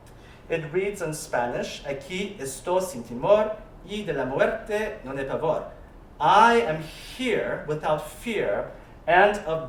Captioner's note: spanish